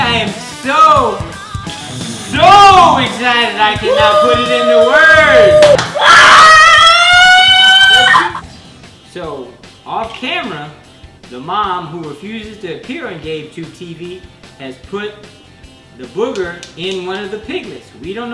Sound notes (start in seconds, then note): 3.6 screaming and cheering